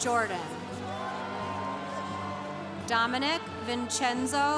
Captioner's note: congregation cheering